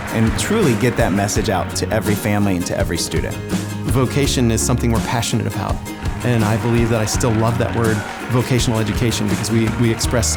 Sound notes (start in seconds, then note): 4.3 applause